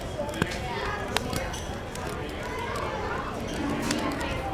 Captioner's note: flames crackling